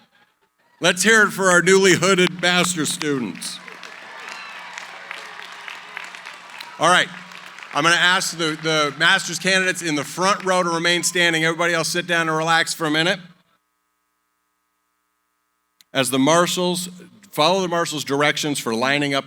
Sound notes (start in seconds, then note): 1.9 applause